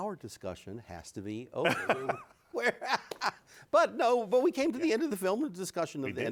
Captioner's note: both laughing